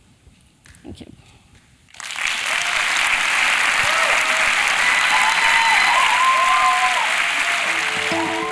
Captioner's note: applause